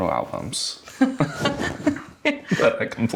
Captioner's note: both laugh